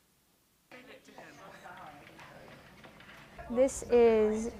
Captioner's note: group talking